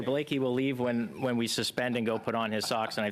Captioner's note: conversation din